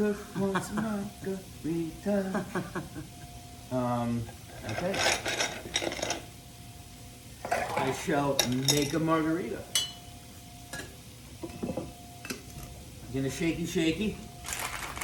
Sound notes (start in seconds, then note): 2.2 Rachael laughing; 8.1 ice clacking